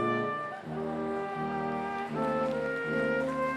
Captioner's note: applause